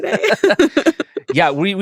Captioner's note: laugh